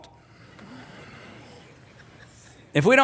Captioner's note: audience laughing